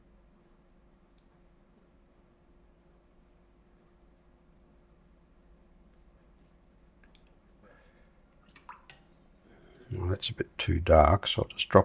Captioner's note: silence